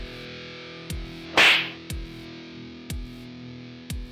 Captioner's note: upbeat music; slap